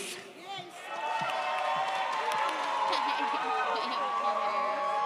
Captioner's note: audience cheers